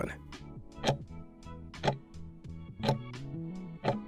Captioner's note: timer ticking